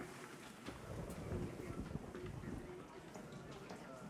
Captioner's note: thunder rumbling